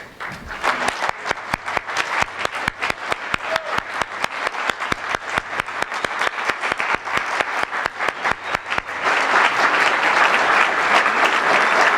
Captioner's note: applause